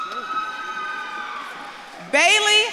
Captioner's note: audience claps and cheers